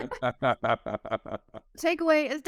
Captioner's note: both laughing